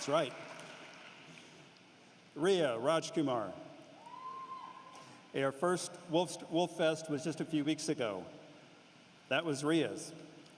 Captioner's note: cheering and applause